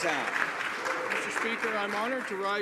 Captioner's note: applause